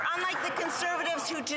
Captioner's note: some Applause